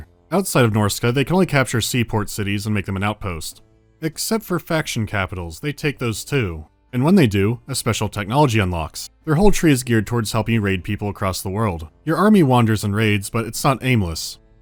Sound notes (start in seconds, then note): none